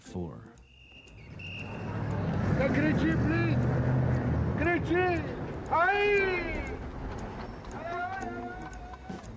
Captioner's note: whistle blowing